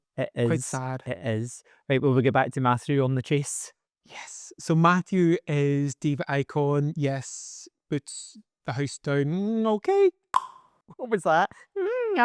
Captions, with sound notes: It is. Quite sad! It is. Right, will we get back to Mathew on The Chase? Yes. So Matthew is diva icon. Yes, boots the house down. Okay. (tongue pop) What was that?